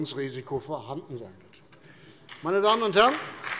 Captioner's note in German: Beifall bei der CDU und dem BÜNDNIS 90/DIE GRÜNEN